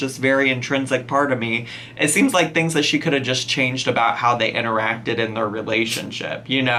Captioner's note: none